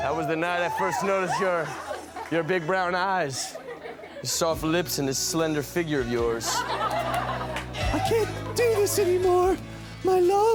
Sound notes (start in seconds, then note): 6.4 audience laughs